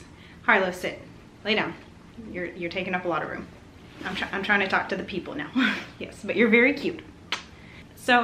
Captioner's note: laughs; kiss noise